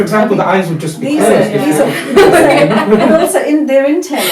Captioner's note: laughter